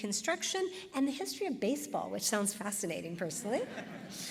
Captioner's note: laughter